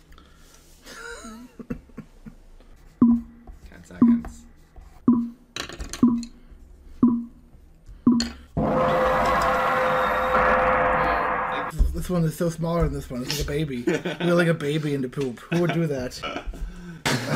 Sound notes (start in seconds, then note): 0.9 he laughs; 8.6 gooooong